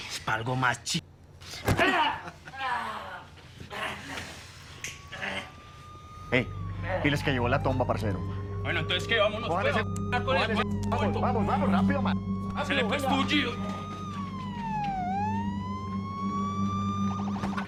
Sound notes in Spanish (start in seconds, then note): 1.6 Quejidos; 5.0 Sirenas sonando; 13.2 Sirenas sonando